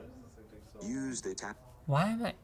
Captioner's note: automated Male Voice